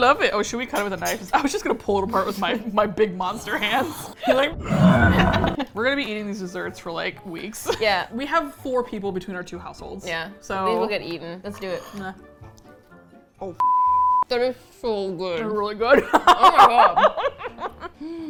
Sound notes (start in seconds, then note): 4.5 roar; 6.8 laughs; 15.9 laughs